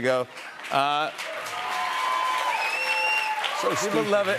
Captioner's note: cheers and applause